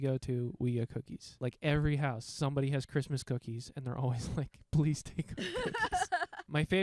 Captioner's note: both laughing